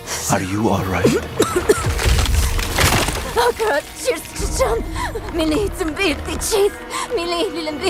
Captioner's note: chanting and coughing